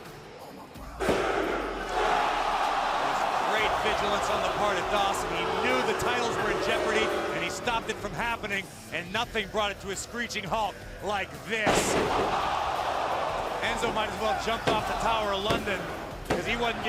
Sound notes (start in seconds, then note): 1.0 crowd cheering; 11.7 crowd cheering